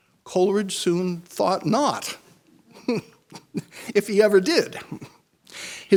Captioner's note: chuckles